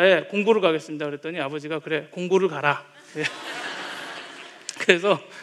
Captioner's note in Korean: 웃음